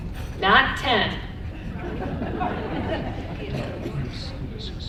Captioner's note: audience laughs